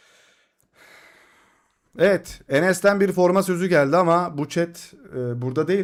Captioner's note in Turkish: iç çeker